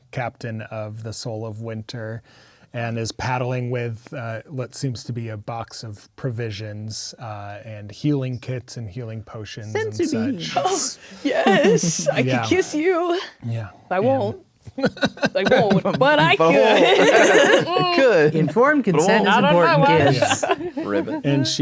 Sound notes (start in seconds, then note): 14.7 laughing; 17.1 players laughing